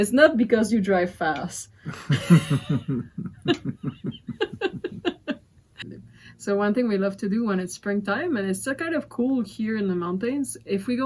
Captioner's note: laughters